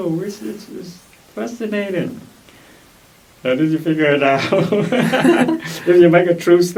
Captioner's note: laugh